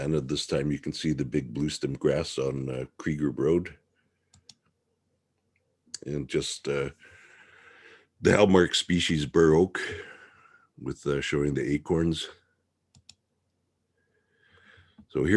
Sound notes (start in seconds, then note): 4.3 mouse clicking; 12.9 mouse clicking